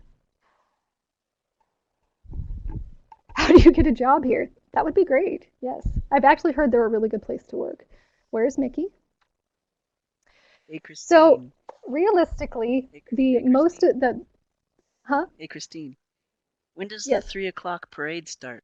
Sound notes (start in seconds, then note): 3.2 laughs